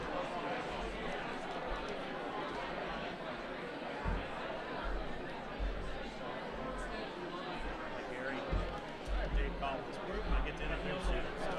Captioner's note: general crowd noise